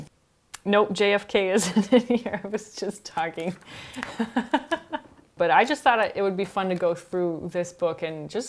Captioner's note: laughs